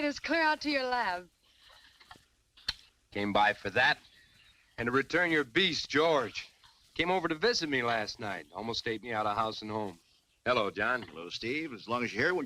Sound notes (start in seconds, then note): none